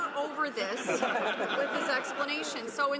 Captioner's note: some laughter